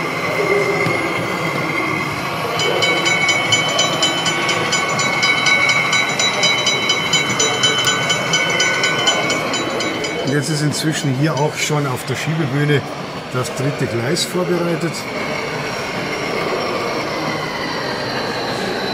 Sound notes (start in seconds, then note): 2.5 bell